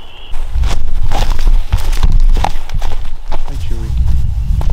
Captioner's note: footsteps fall